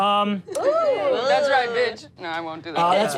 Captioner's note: crowd cheers